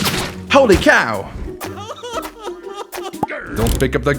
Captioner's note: sobbing noises